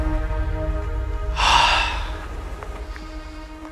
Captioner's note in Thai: เสียงถอนหายใจ